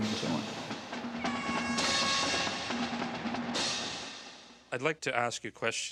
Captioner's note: marching band music; horn blaring